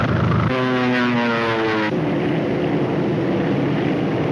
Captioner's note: plane engine revs